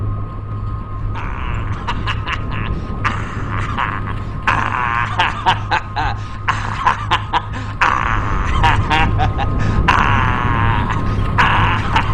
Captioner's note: Pennywise from It laughing